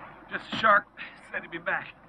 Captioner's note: none